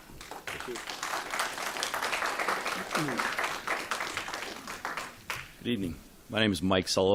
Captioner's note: applause